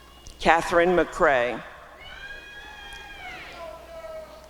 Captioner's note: applause and cheering